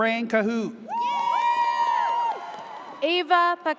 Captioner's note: audience cheers